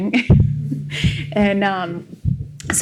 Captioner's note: laughs